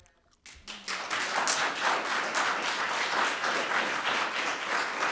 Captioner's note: audience applauding